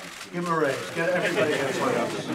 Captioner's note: laughter